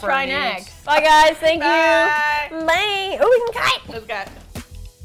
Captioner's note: laughs; excitedly; upbeat music